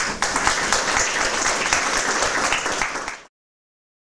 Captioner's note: applause